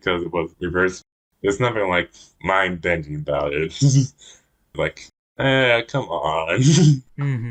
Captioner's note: laughs